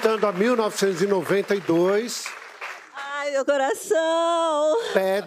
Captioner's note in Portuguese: aplausos